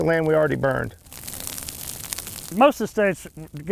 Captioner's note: fire crackling